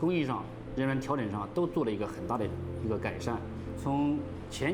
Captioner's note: speaking Chinese